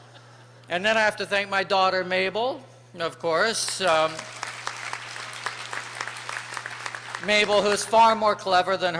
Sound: applause

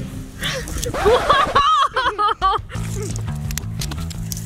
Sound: mom screams and laughs; record scratching; soft upbeat guitar

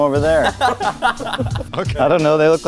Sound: laugh

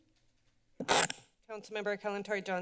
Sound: feedback sound

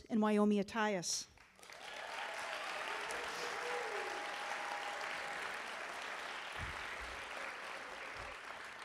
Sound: applause

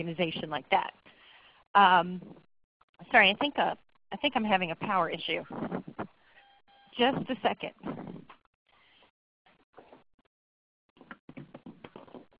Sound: silence

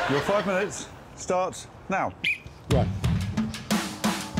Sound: laughter; whistle blows

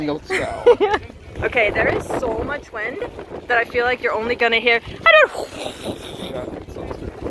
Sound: wind noise

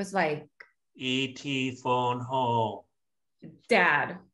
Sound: E.T voice

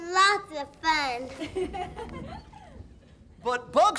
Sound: everyone laughs

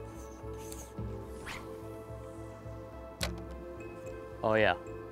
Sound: line swishing

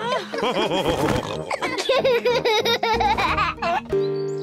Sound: laughs; all laughing

